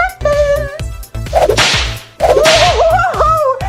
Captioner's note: door whips